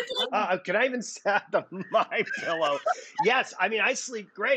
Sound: laughing

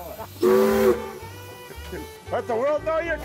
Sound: loud whistle blowing

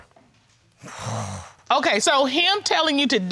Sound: sighs frustratedly

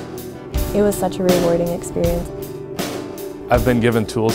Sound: voiceover

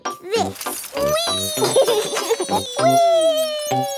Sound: laughs

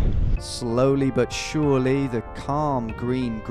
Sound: voiceover

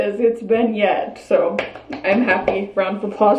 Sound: hands patter

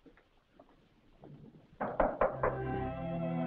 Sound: knocking at door; gentle music

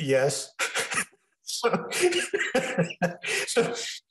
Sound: laughing

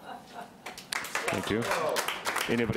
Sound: audience applauding

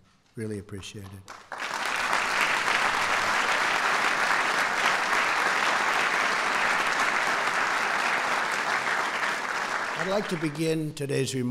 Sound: applause

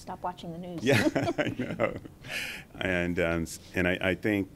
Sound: laughing

